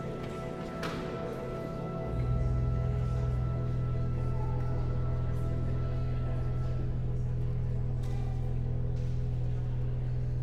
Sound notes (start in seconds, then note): 0.9 guests continue chattering; 1.7 solemn music continues